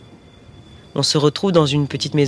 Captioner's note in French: son train